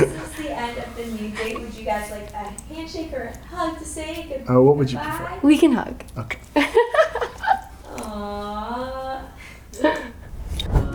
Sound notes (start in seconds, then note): 6.3 laughs